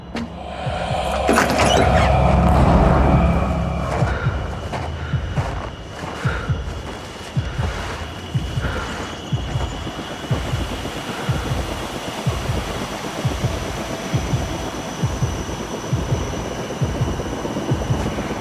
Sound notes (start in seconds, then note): 0.0 eerie exhaling; 4.2 Mr. McManus breathing heavily; 10.5 heart beat thumping quickens; 15.0 anticipatory music